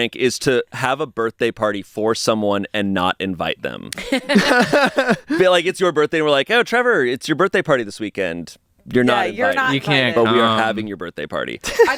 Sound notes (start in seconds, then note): 4.0 everyone laughs